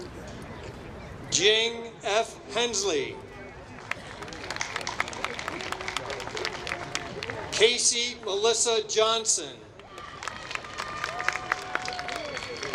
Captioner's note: applause